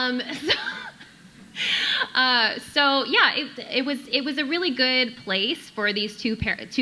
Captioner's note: chuckles